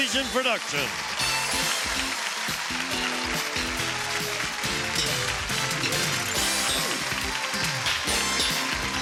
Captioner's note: applause, theme music